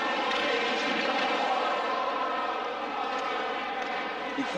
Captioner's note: hockey rink ambience